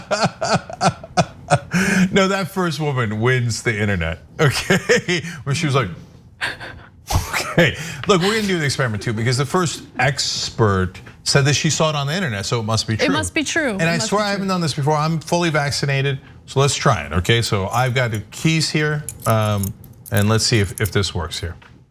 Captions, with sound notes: No, that first woman wins the internet. Okay, [LAUGH] when she was like [LAUGH]. Look, we didn't knew these experiment too because the first expert said that she saw it on the internet, so it must be true. >> It must be true. >> And I swear, I haven't done this before. I'm fully vaccinated, so let's try it, okay? So I've got the keys here, and let's see if this works here.